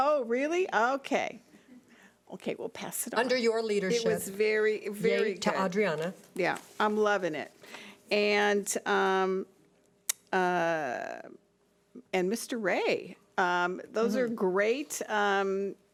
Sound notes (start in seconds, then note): none